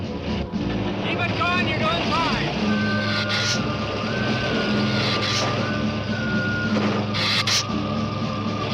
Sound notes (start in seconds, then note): 2.7 dramatic music; 2.7 lizard hissing